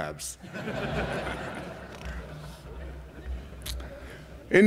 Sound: laughter

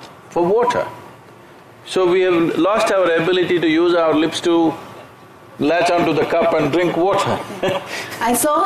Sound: laughs

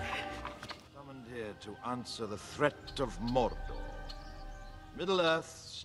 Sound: man speaking in the distance

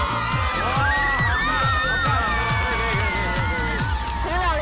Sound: applause for you two

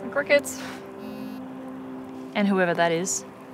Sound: phone buzzes

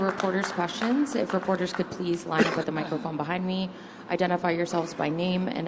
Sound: applause

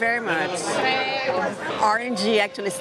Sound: in Italian

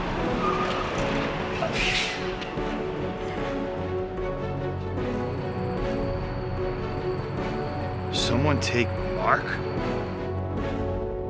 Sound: tires screeching

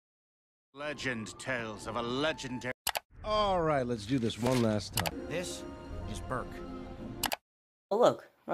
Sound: movie Noises

